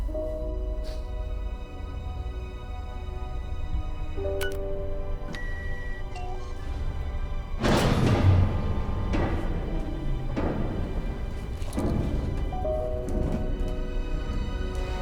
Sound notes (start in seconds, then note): 0.2 hopeful music; 5.0 computer beeps promisingly; 7.7 mechanism rumbles; 9.0 hopeful music continues; 9.0 ship echoes